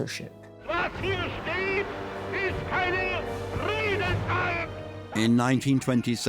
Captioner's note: Hitler speaking in foreign language